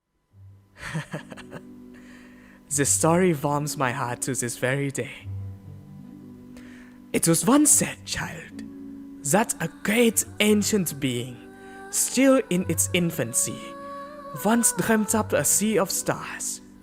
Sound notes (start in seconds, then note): 0.8 chuckles